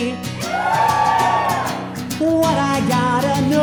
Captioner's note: audience cheering